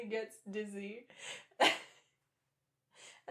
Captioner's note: laughter